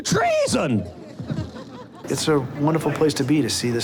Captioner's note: scattered laughter